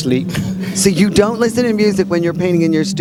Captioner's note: chuckles